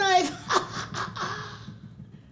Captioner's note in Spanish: Ríe